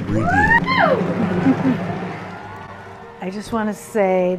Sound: people cheering and clapping

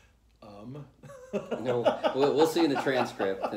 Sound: laughter

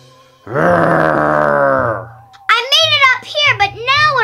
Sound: grunting

